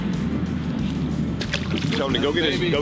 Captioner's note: water splashes